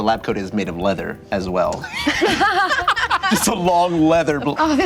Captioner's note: loud laughter